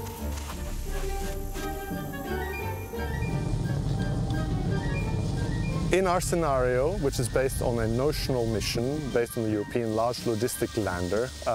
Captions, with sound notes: (spacecraft whooshing) (whimsical music) In our scenario, which is based on a notional machine based on the European Large Logistics Lander,